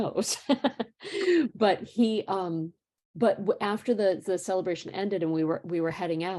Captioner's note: laughter